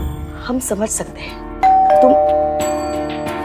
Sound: doorbell ringing

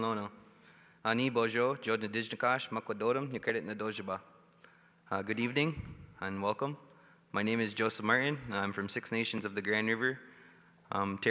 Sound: speaking Indigenous Language

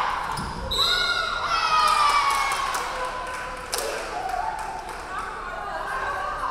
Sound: referee whistling; crowd cheering

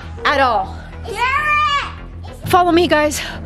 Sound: shouting

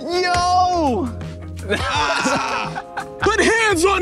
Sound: laughter

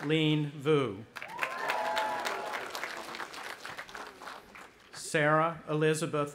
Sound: audience applauding

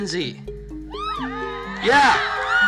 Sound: hyped crowd sounds

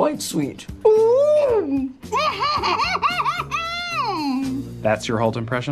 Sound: gross german laughter here

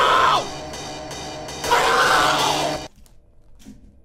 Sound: scream

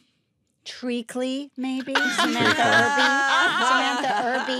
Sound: all laugh

